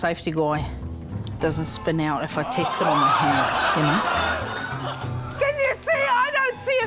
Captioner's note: shocked laughter